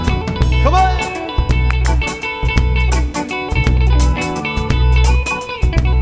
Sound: claps

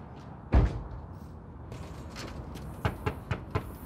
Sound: door shuts; hand knocks

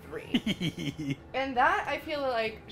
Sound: giggles

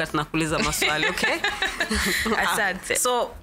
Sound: both laugh

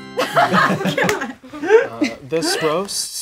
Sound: laughing

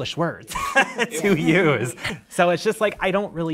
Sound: participants laughing

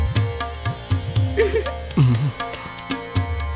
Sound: chuckles

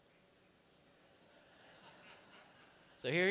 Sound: laughter

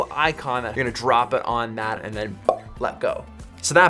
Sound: pop

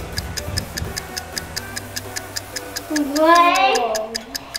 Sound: timer clicks

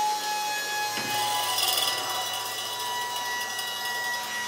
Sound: machine buzzing

